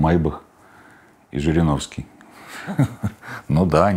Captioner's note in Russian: смеется